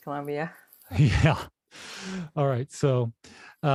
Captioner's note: laughs